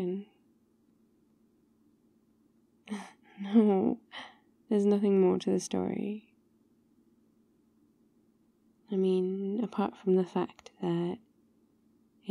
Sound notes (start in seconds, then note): 3.4 laughs